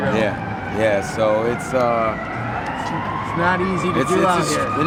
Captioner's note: siren wailing